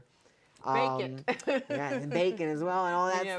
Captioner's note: laughing